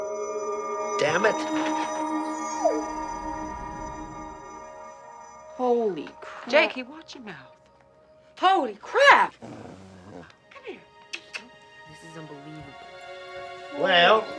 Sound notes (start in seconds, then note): 2.4 whimpering; 9.3 Stump growling softly; 11.0 kissing sounds